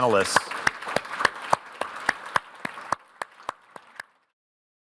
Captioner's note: audience applause